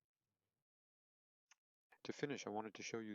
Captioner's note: silence